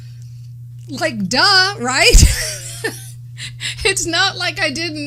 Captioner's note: laughs